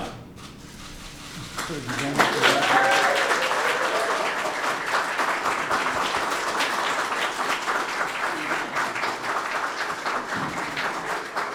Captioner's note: applause